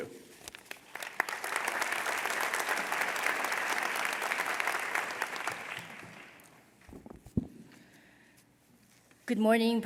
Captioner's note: applause